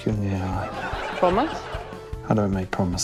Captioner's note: laughter